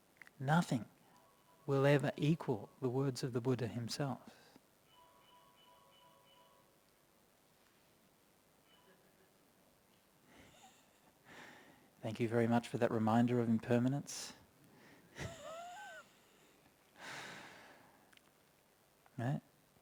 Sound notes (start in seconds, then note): 10.4 laughs